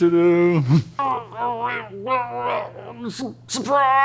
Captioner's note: muffled moans and groans of pain